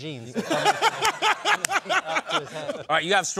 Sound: laughter

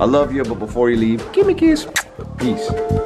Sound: smooch

